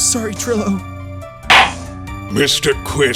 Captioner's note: gavel slams!